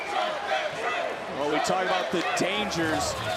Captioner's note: crowd chanting